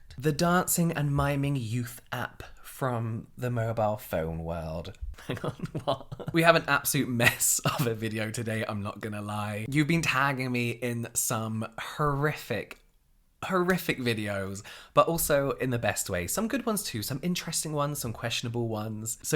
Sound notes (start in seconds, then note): 5.2 laughing